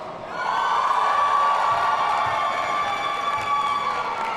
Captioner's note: audience cheering